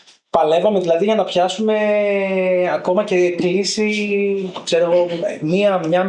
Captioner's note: laughs